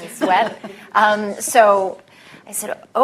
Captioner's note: laughter